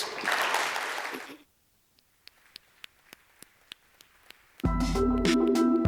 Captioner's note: applause; bright, ambient tonal music